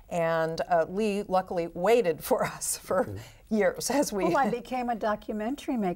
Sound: laughs

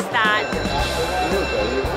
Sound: bell ringing

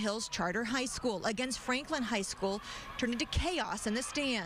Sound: cheering

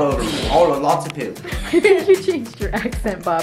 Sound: laughs

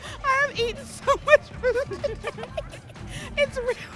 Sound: laughs

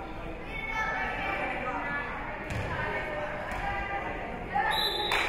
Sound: spectators shouting encouragements; whistle being blown

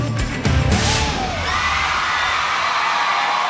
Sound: audience cheers

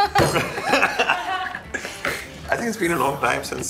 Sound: laughing

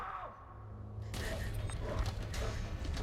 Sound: breathing raggedly

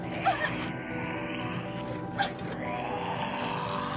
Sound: whimpering

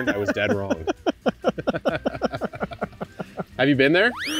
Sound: both laugh

